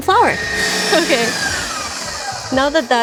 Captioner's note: machine buzzing